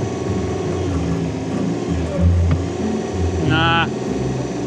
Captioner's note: motor running